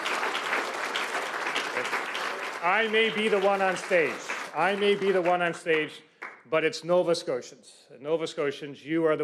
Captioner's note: applause